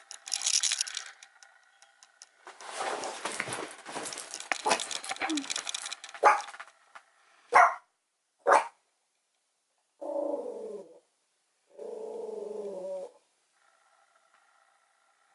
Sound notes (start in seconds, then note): 2.2 scratches bed; 4.5 barks; 9.6 growls